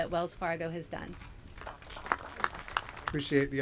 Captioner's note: applause